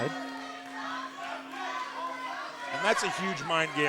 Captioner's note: bell ringing